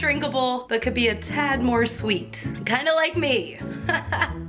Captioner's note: laughing